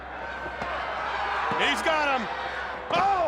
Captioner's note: crowd cheering